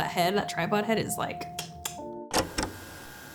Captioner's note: tongue clicking